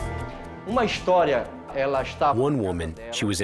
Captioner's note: speaking Portuguese